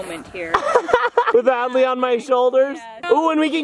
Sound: laughs

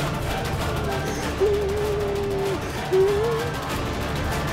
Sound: whimpers

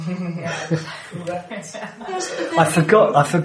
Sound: laughter

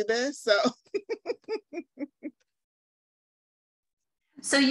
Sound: chuckling

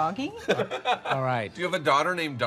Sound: bearded man laughs

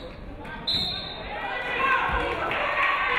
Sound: referee whistles; audience clapping

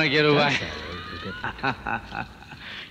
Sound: laughs

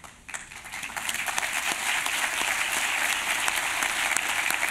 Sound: applause

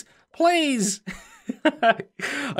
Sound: chuckles

